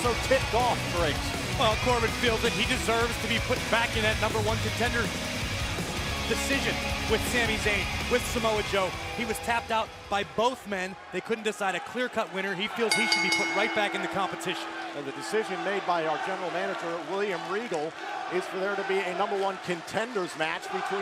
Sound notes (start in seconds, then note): 16.1 bell ringing